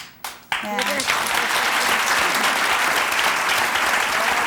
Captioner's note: audience applause